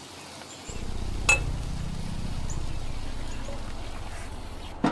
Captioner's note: air quavering